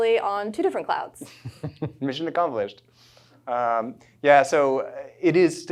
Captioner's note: chuckles